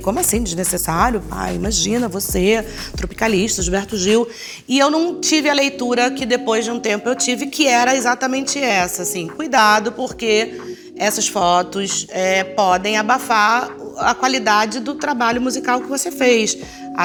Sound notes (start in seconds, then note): none